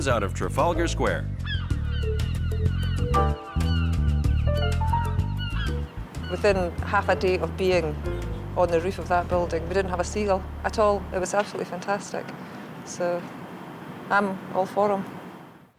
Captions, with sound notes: out of Trafalgar Square. [birds squawking] - Within half a day of being on the roof of that building, we didn't have a sea gull at all. It was absolutely fantastic. So I'm all for 'em.